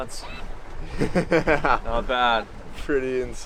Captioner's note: laughing